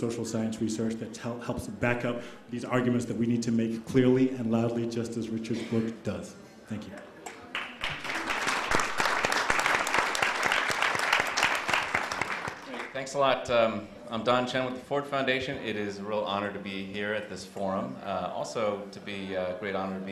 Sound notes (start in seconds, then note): 7.4 applause